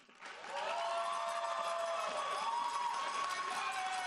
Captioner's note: audience cheering